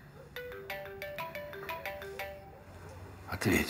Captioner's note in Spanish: suena el teléfono